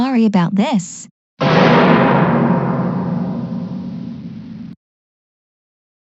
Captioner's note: scary sfx